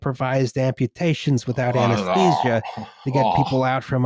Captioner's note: continues making disgusted noises